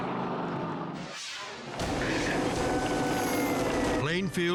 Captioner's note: air whooshes; siren blaring